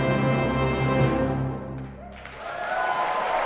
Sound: audience applauding; audience cheering

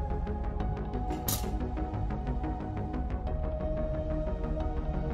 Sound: instruments clack

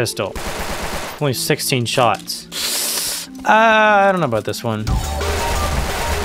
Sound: sucks teeth

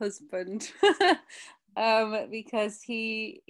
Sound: chuckles

